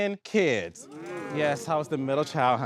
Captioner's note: audience exclaiming